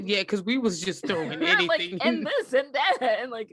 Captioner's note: giggles